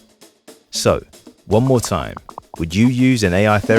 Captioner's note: keyboard typing, popping